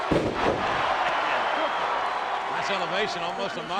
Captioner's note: crowd cheers